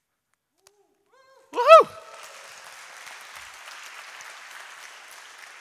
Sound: audience applauds

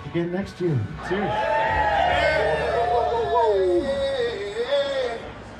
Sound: crew cheering

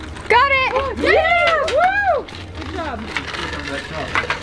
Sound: all cheer

